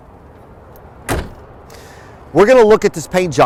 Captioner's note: closes coach door